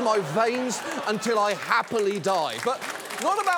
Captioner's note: audience applauds